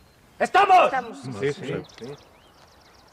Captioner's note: shouts